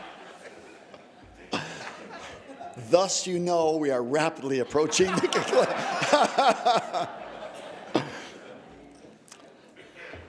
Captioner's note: laughter